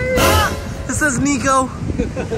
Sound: yelling

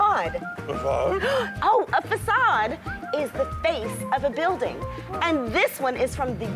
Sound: gasping

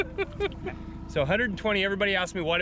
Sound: laughing

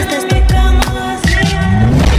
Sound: clap

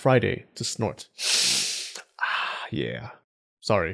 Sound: sniff

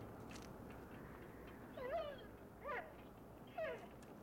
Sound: dog whimpers

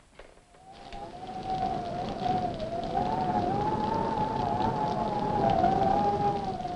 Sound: rain pattering; wind howling

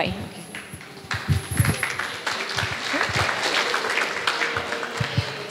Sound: audience applause

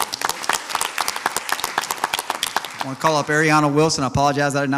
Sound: audience applauds

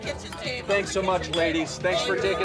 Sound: mugs clanking

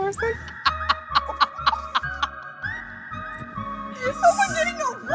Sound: laughs

